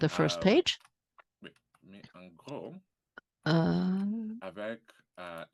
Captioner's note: speaking french